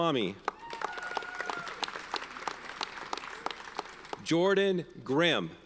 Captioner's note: audience cheers and applauds